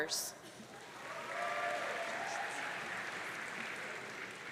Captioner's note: audience cheering